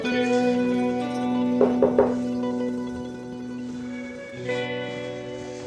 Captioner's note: doorbell rings